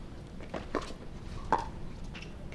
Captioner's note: none